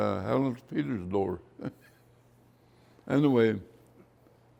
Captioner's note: laughs